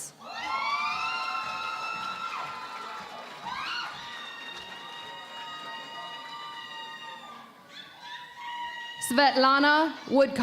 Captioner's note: cheering and Applause